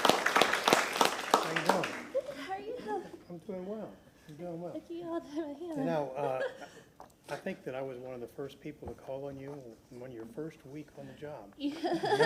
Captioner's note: applause